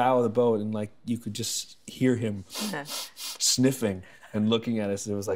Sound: sniffing

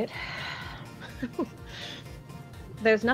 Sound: sighs and laughs exasperatedly

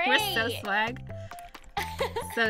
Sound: laughs

